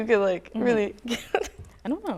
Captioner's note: laughs